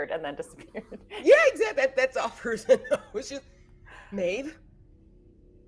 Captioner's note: laughing